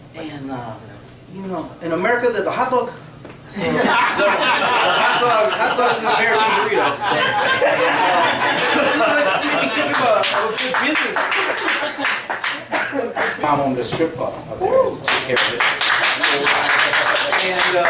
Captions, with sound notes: and America there's a hot dog. (laughter) So hot dog's the American burrito. (clapping) Mom owned a strip club out there. (loud applause)